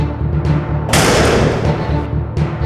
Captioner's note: door Slams Shut